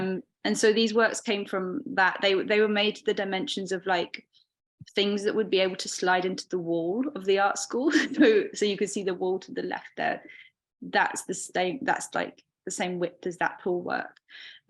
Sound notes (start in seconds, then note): 8.0 chuckling